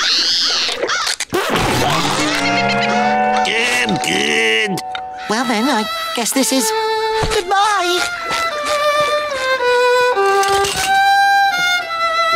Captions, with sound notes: [thudding] I'm good. Well, then, I guess this is good-bye. [violin playing]